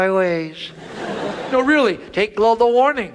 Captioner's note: audience laughs